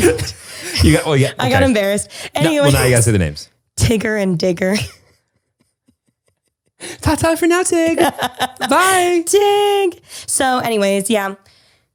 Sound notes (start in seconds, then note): 0.0 laughter continues; 6.1 laughs